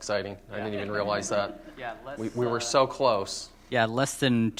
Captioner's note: laughter